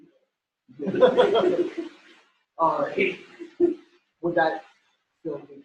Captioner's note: laughter